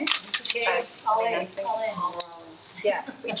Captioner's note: attendees chatting